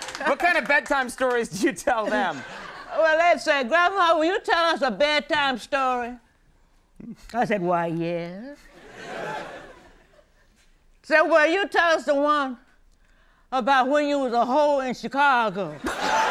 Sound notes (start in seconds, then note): 0.0 laughs; 8.7 audience laughing; 15.8 audience laughing, applauding, and cheering